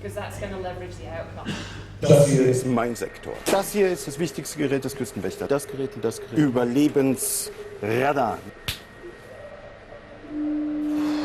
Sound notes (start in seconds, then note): 2.3 speaks in foreign language; 8.7 smack